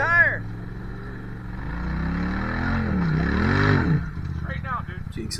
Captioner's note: engine revving